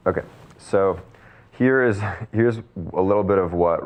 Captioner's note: chuckles